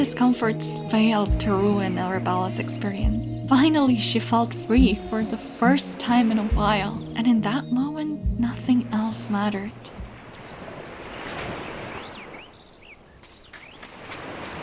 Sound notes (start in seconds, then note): 8.9 waves crashing